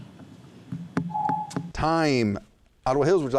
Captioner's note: whispers; ringing